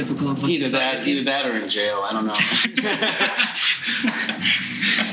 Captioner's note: laughing